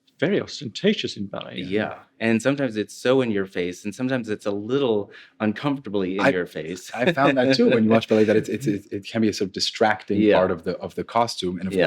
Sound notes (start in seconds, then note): 6.7 laughs